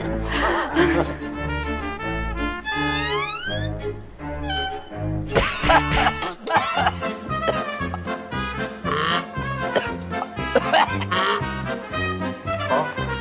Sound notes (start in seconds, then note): 5.3 cough!; 10.4 cough